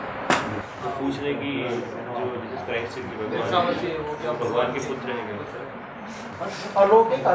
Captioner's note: foreign